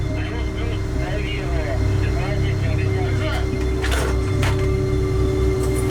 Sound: chatter

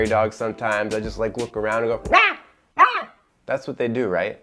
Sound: barks

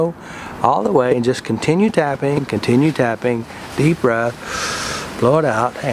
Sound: inhaling

